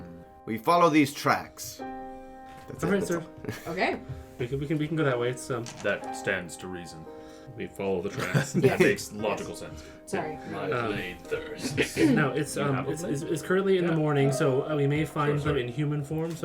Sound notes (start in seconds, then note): 2.8 quietly; 8.1 chuckles